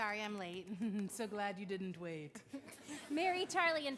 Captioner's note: chuckles